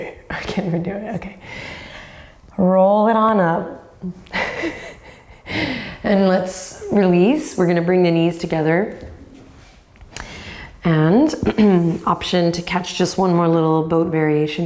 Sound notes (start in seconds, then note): 4.3 laughs